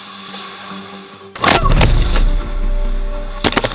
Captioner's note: crunch